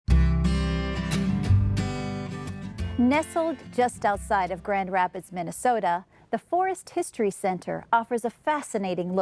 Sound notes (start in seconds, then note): 0.0 guitar music; 3.1 voiceover